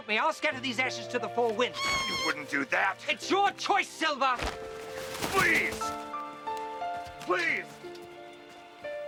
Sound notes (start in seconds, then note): 1.7 Captain Flint squawking